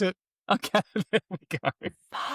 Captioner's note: laughs